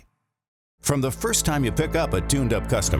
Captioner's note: voiceover